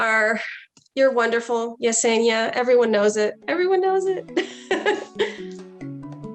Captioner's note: chuckles